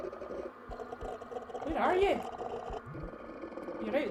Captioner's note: continued growling